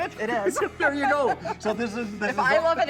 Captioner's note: laughs